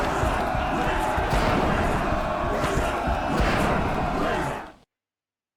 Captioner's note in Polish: Aplauz